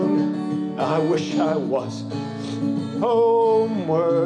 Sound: sniffles

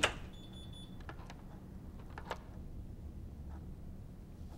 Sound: door closes and locks

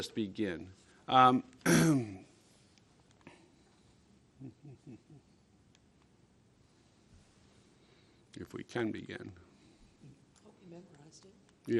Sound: clearing throat

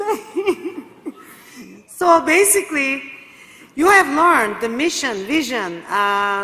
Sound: laugh

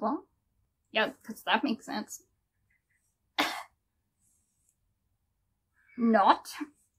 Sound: speaks with full sarcasm

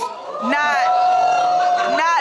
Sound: audience shouting

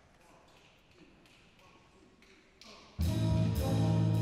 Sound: snapping

